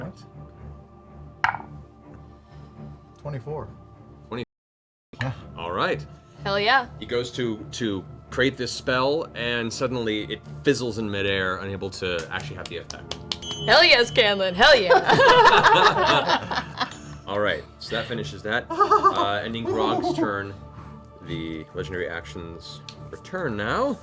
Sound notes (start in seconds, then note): 13.4 rings a bell; 14.9 all laugh